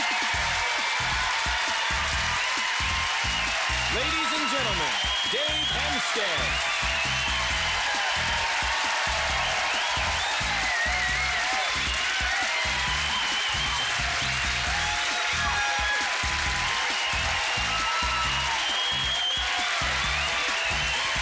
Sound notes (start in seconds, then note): 6.4 audience cheers and applause; 9.6 theme plays: Funky techno music